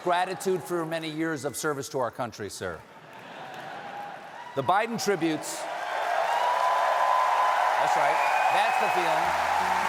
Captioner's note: cheers and applause